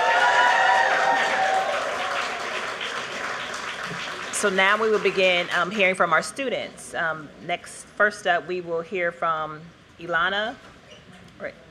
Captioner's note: applause